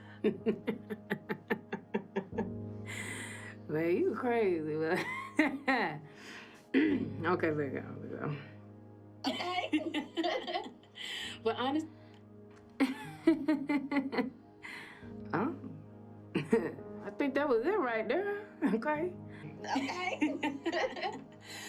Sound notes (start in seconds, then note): 0.1 laughing; 9.2 laughing; 12.8 mocking laugh; 19.6 laughing